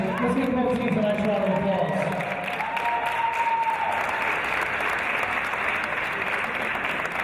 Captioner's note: applause; applause and cheers